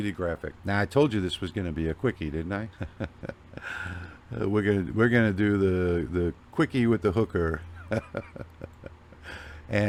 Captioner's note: laughing